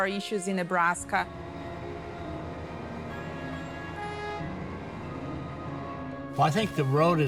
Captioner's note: soft upbeat music; engines rumbling